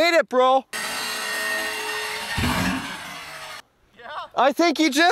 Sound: RC truck wheels spinning

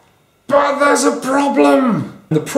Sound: strained shout

